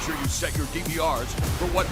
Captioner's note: crowd cheering